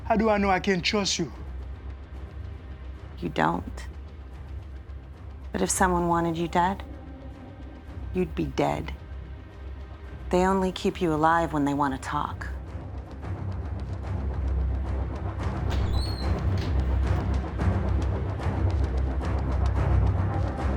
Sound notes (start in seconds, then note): 0.0 dramatic music; 13.2 dramatic music; 15.7 door opening; 17.7 dramatic music